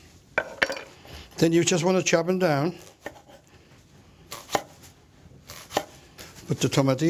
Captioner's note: chopping